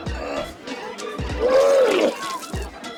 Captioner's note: heaving